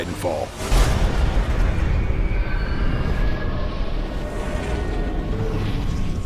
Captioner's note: electronic sounds